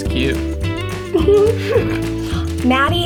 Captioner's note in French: rire